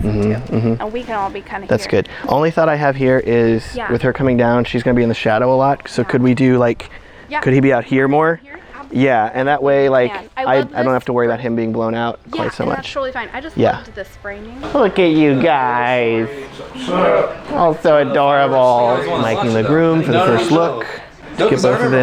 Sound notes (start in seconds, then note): 16.7 men in unison